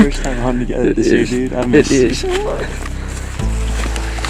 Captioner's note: excited voices